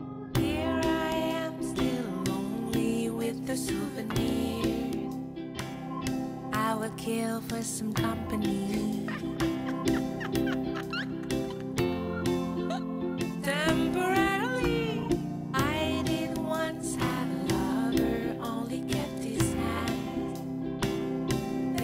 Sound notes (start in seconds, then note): 9.0 laughs